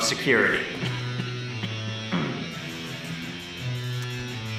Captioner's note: coughs